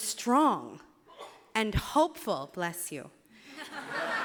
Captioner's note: sneeze from audience; laughter